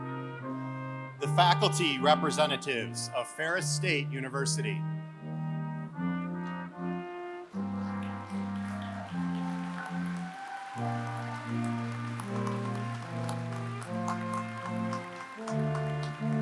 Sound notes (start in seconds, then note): 4.9 applause